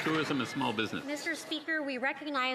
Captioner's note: some Applause